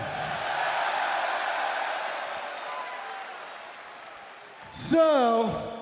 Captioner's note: crowd cheering